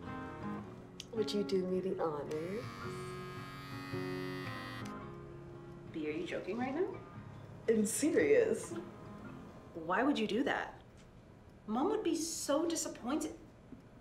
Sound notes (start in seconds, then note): 2.2 razor buzzes